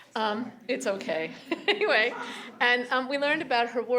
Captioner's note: laughs